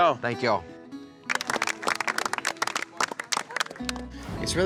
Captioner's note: applause